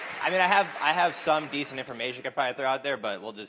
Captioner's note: applause